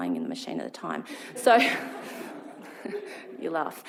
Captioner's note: laughs